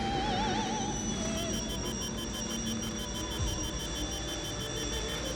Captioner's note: alarm beeping